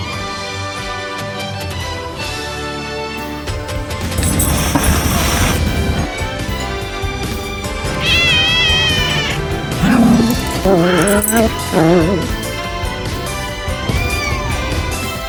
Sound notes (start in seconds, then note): 4.0 hisses; 7.8 growls; 7.9 meows; 14.0 meows